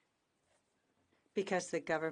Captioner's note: speaking in French